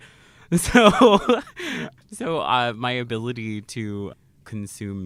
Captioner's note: laughs